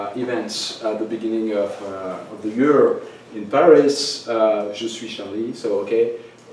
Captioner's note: french